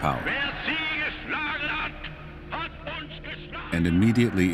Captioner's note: Hitler speaking German